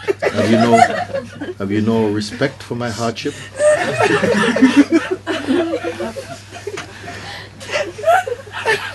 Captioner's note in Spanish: risas; risas continúan